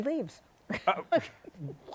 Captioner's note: laughs